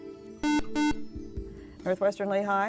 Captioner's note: beep